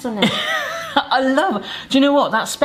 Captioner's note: wheezing